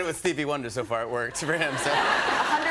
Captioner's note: laughter